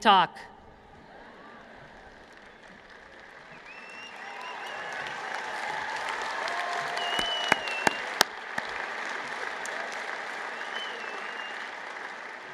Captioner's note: applause